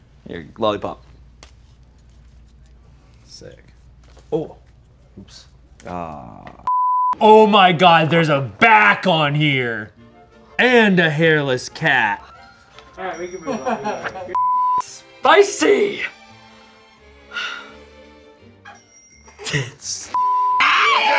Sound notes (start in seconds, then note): 6.6 beep; 13.2 people laughing behind camera; 14.3 beep; 19.3 laughs; 20.1 beep